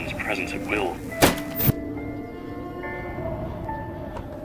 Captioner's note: banging